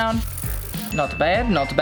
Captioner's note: sandpaper scraping